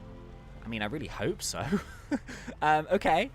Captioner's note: laughs